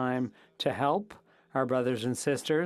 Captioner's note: speaking French